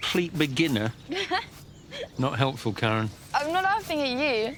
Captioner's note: karen guffaws